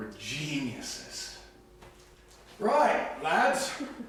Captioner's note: British accent